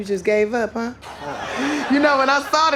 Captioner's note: laughter